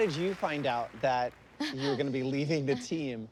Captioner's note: laughs